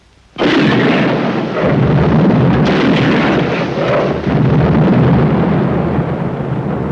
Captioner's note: cannons booming